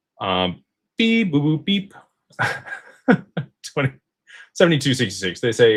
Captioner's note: laughter